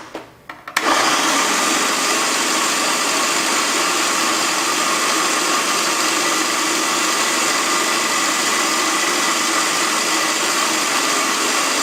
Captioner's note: loud food processor noise